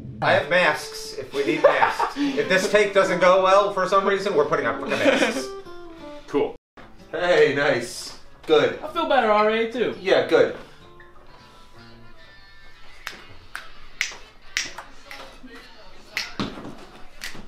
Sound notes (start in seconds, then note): 0.0 rhythmic drum beat; 1.2 laughs; 14.5 snapping